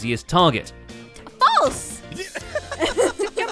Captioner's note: smack; giggles; laughing